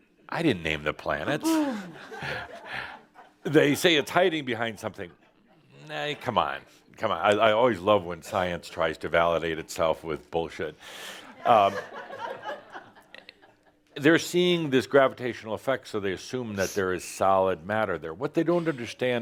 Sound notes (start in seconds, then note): 11.3 laughter